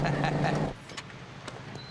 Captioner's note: laughs; gate opens